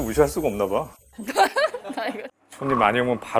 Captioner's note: haha